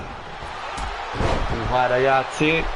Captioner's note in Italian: Applauso